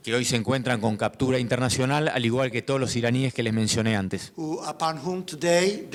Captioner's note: speaking in foreign language